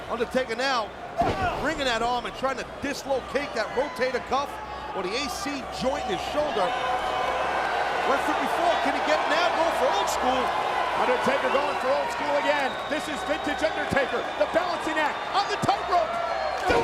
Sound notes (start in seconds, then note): 7.0 crowd cheers